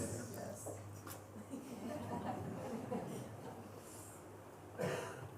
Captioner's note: laughter